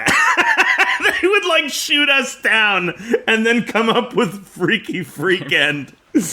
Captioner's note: laughs